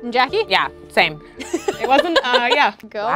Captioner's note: laughing